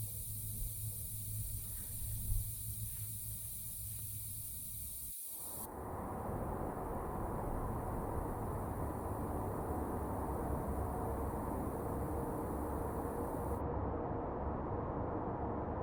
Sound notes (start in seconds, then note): 2.4 gas hissing continues; 5.7 wind whistling